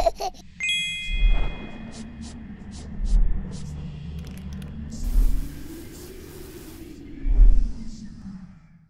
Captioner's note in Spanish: risas de bebe; whoshing